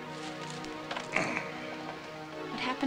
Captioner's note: Travis grunting